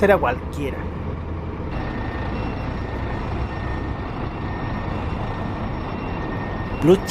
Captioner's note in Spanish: sonido del bus llegando y otro bus saliendo